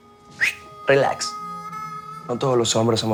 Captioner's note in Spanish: Silbido